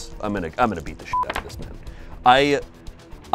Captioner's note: beep